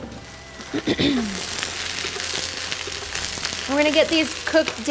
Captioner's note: mushrooms sizzling